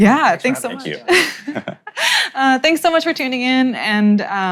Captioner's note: laughs